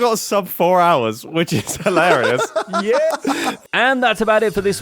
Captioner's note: laughs